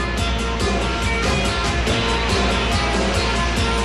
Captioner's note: motor whines